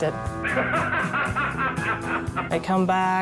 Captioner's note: actor laughing